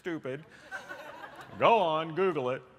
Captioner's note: laughter